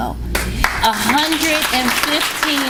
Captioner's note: applause